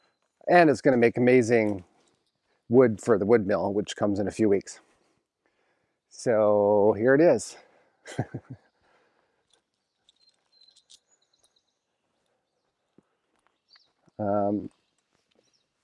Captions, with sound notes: and it's gonna make amazing wood for the wood mill, which comes in a few weeks. So here it is. (chuckles) (birds chirping)